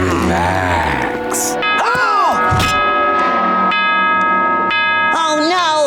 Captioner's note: gasping; bell ringing